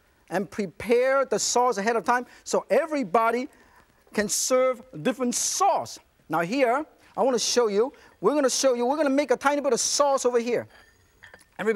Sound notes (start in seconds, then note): none